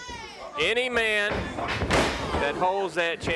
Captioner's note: body thudding